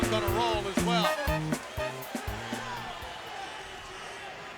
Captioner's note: crowd cheering